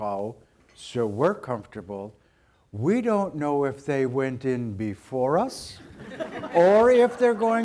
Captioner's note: audience laughter